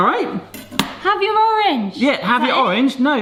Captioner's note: knife clanks